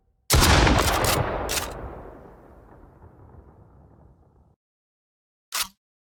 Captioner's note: gun blasts; gun clicks